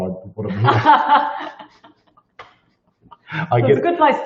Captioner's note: both laugh